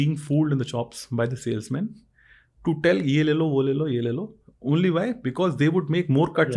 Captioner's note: speaks in Hindi